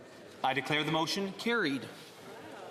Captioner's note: speaking French